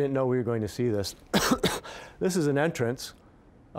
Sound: coughing

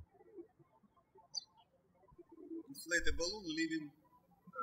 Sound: birds chirping

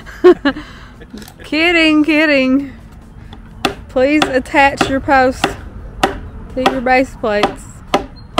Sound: laughter

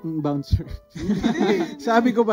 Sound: laughs

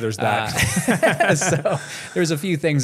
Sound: laughs

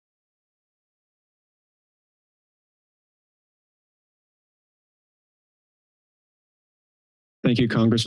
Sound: silence

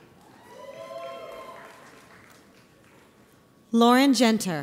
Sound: audience applauds

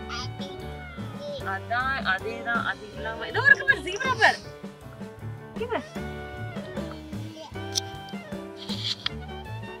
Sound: baby blabbering

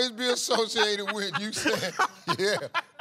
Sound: laughs

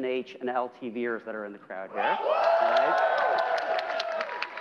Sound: cheering

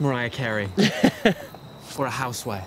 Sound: Sam laughing

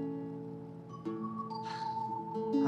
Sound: sighs

